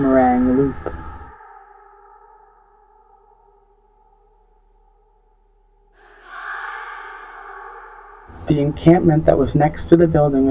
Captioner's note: echoing voices chanting